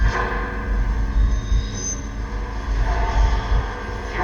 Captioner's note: ghostly voice